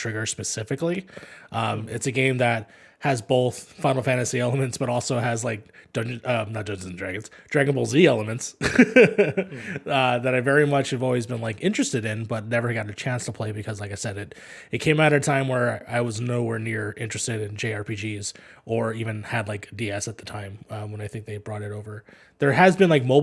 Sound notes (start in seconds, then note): 8.6 laughs